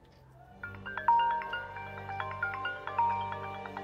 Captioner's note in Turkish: Telefon çalıyor